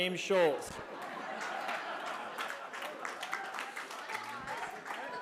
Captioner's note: laughter